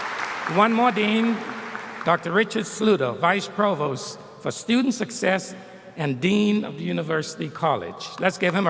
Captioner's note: applause